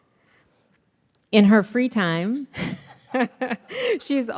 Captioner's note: laughs